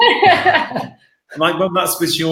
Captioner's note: laughing